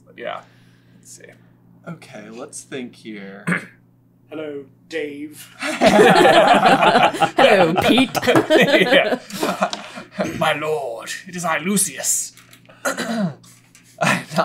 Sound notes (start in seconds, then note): 5.6 laughter